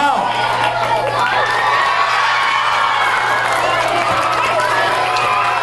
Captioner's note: audience cheers and applauds